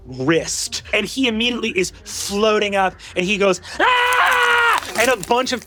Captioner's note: screams